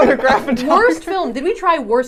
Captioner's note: laughing